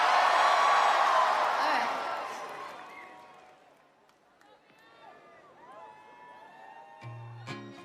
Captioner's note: crowd cheering